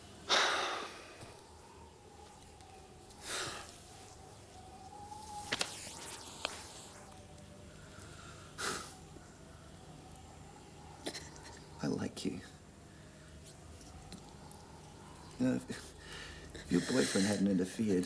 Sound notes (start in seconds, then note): 0.2 Graham sighs; 2.8 wind howling